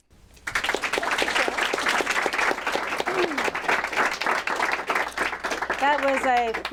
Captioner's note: applause